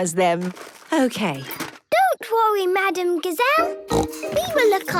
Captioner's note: snorting